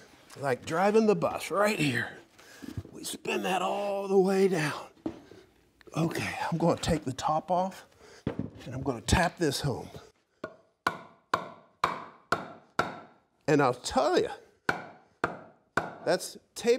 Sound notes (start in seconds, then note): 10.4 tapping